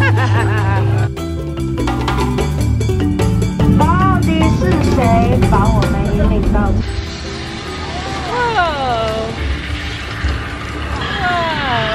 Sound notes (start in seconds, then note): 0.1 laughs; 3.9 speaks foreign language